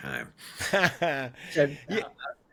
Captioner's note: laughs